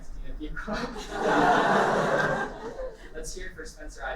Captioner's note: laughter